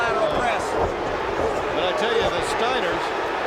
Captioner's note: audience barks